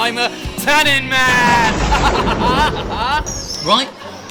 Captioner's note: evil laugh